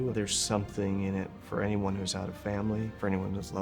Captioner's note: none